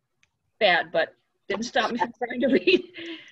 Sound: chuckles

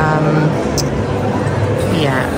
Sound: people chattering

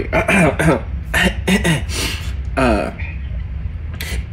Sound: Del clears throat

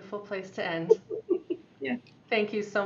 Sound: laughing

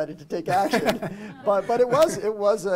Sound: chuckle

